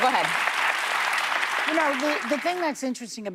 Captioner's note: applause